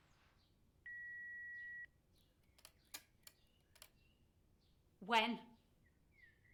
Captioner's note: voicemail message beeps